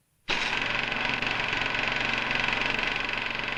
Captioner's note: projector whirring